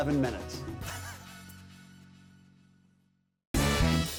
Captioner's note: chuckles